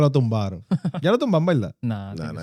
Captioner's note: speaking Spanish